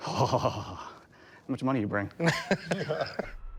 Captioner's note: scoffs; laughter